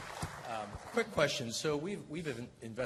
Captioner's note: applause